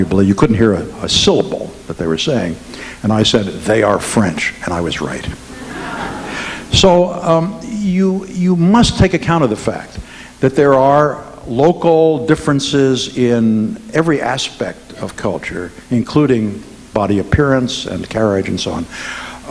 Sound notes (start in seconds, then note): 5.5 audience laughing